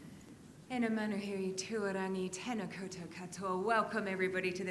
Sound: speaks in a foreign language

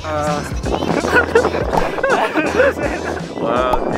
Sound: laughing

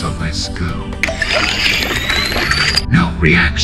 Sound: slurp

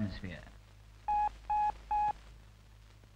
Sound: beep, Beep, Beep

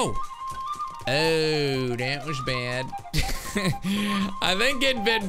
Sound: laughs

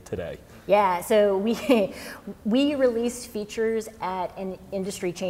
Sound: chuckles

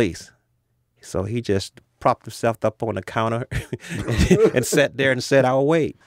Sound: laughs

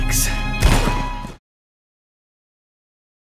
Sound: gunshot

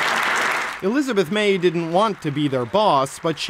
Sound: applause

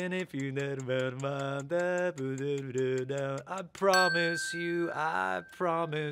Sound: humming

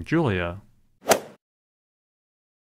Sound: swoosh

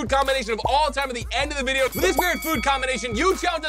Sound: bell dinging

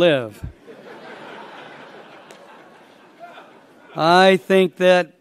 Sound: laughter

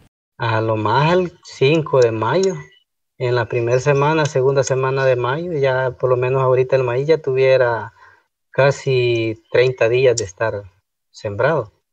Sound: foreign Language

